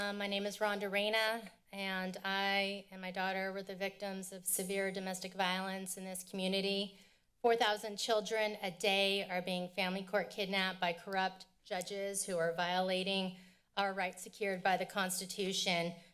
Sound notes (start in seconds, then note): none